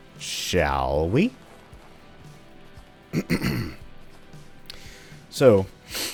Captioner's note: clears throat